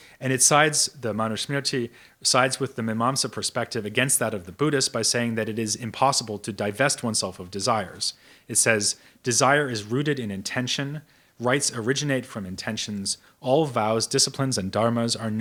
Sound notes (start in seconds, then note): none